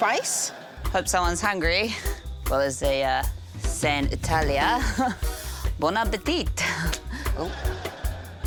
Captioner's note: chuckles